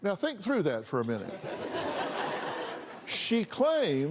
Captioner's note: laughter